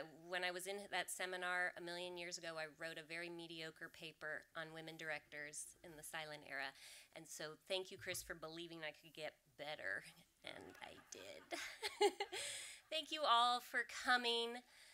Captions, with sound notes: when I was in that seminar a million years ago, I wrote a very mediocre paper on women directors in the silent era. And so thank you Chris for believing I could get better, and I did. [laughs] Thank you all for coming.